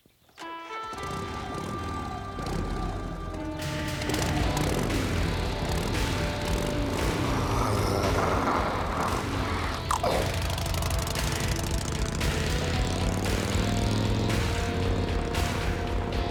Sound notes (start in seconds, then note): 0.9 engine revving; 7.8 low growling